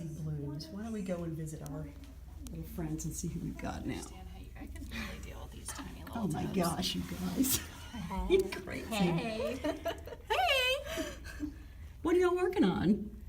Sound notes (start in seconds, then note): 8.9 laughing